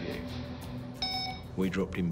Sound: camera beeps

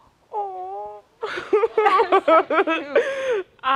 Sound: laughter

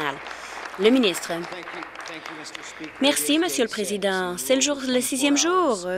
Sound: applause

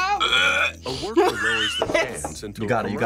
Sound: wretches; laughs

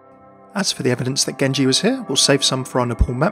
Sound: voiceover

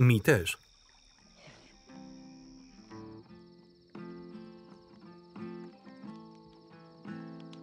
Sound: crickets chirping; placid guitar music

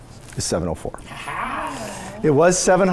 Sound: laughing

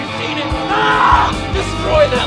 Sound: scream

